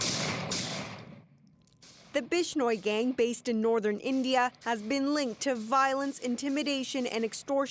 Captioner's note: gunshots